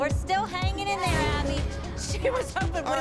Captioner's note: laughing